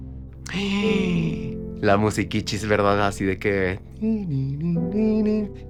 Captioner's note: gay gasp